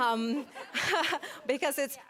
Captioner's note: people laughing